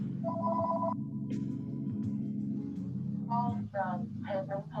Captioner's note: phone rings